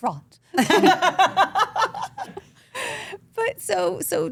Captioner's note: group laughs